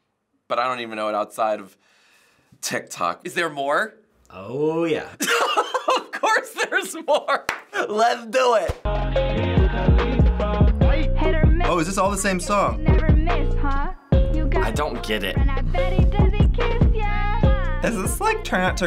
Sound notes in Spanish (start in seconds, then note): 5.2 ríe; 7.4 Aplaude